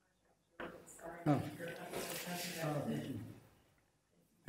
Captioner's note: murmuring